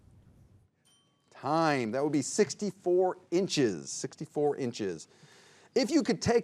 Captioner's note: bell dings